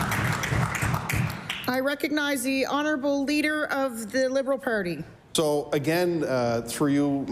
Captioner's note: applause